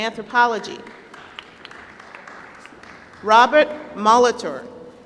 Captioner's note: applause